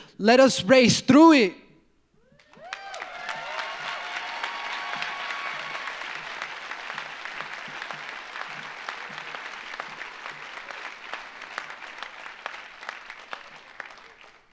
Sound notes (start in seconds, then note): 2.8 audience applauds; 2.8 audience cheers